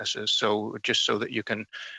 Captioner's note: speaking French